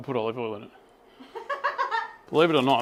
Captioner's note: laughing